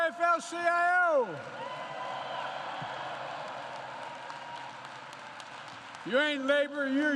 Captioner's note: applause